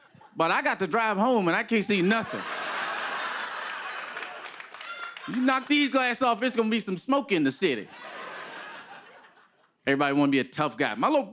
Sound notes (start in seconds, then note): 1.9 laughter and applause; 7.8 laughter